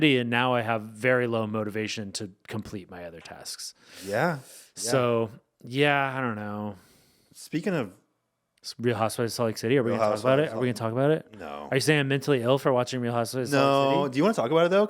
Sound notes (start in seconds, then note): none